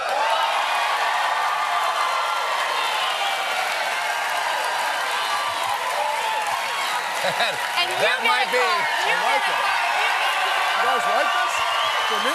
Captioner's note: cheers and applause